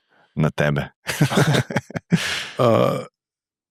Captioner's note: laughter